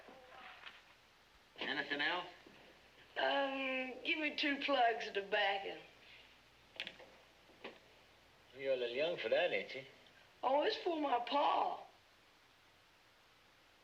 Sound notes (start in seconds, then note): none